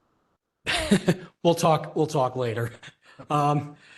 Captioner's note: laugh